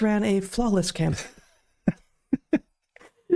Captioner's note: laughing